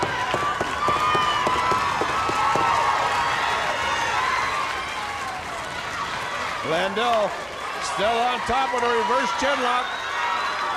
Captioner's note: crowd cheering